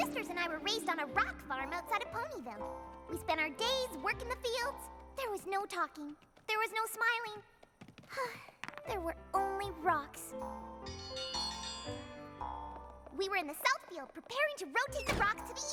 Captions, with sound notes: MY SISTERS AND I WERE RAISED ON A ROCK FARM OUTSIDE OF PONYVILLE. WE SPENT OUR DAYS WORKING THE FIELDS. THERE WAS NO TALKING. THERE WAS NO SMILING. [ SIGHS ] THERE WERE ONLY ROCKS. [ BELL DINGS ] WE WERE IN THE SOUTH FIELD, PREPARING TO ROTATE THE ROCKS TO THE EAST FIELD,